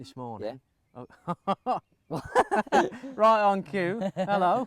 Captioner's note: laughing